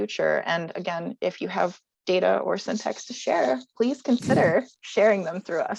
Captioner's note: laughs